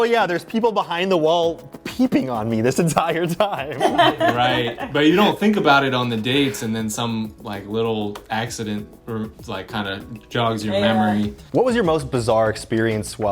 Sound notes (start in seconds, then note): 3.7 laughing